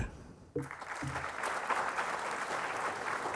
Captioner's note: applause